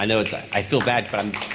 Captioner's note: applause